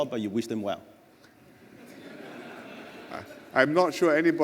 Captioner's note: laughter